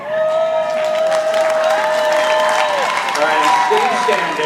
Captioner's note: audience applauding